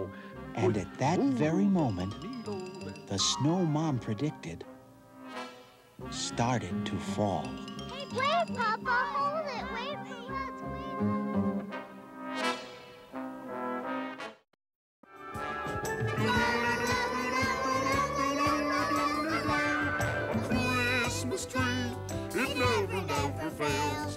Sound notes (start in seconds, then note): 16.2 all humming